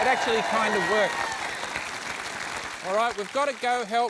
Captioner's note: applause